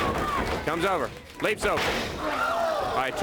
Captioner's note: crowd cheering